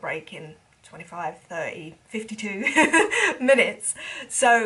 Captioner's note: speaker laughs